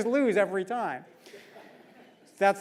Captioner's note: laugh